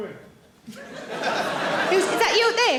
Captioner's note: audience laughing